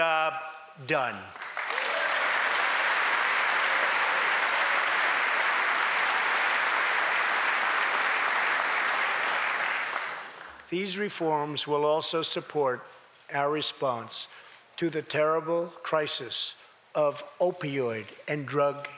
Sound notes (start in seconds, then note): 1.2 applause